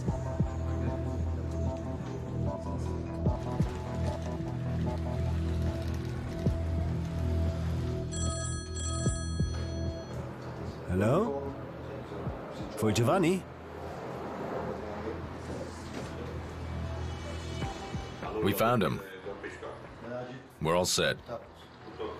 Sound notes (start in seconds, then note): 0.0 ominous music; 8.1 phone ringing